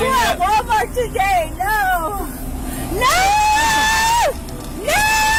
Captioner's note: suspect screaming